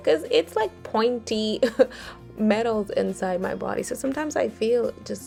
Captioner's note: giggles